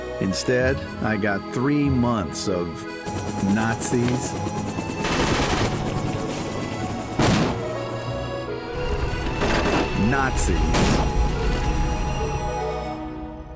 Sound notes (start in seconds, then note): 5.0 gunfire; 7.2 pow; 9.3 bullets hitting metal